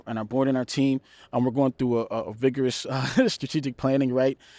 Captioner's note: laughs